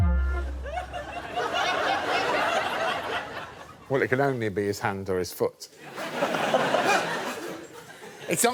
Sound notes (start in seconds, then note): 2.8 audience laughs